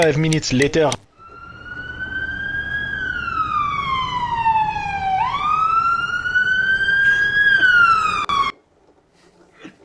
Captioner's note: police car sirens